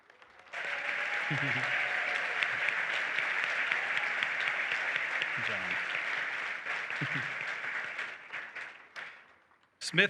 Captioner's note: applause